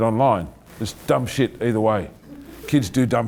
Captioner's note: laughing